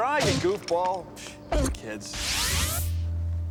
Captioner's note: scoffs